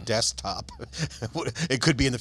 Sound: laughter

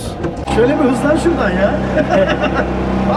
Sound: laughing

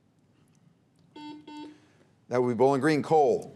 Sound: buzzer beeps

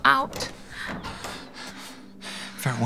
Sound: window opening; soft music

